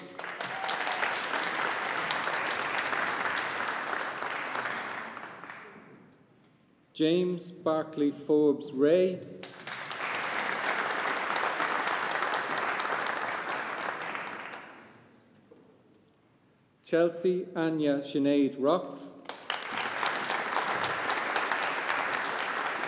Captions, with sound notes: (AUDIENCE APPLAUDING) James Barclay Forbes Rae. (AUDIENCE APPLAUDING) Chelsea Anya Sinead Rocks. (AUDIENCE APPLAUDING)